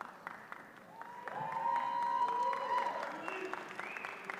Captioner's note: attendees cheer